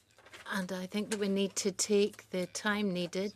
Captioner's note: speaking French